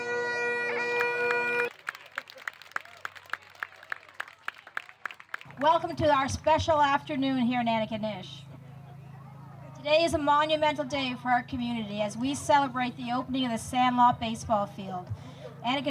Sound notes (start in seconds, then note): 0.8 applause